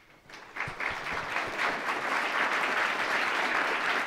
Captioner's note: applause